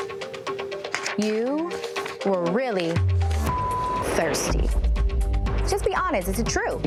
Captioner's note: beep